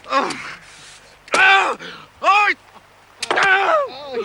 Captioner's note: grunting